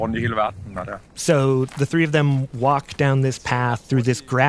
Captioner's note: speaking Danish